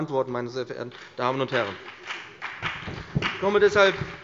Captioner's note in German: Beifall BÜNDNIS 90/DIE GRÜNEN und CDU